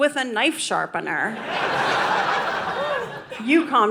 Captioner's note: audience laughing